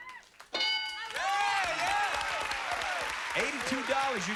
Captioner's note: cheers and applause